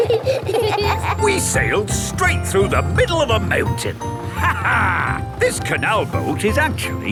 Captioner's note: laughs